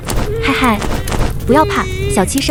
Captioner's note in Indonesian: Batuk